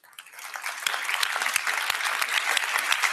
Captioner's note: applause